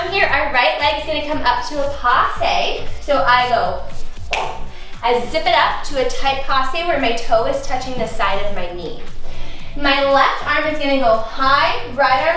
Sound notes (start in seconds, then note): 4.8 whooshing